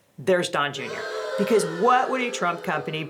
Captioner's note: boo-ing in background